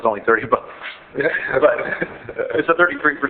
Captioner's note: laughing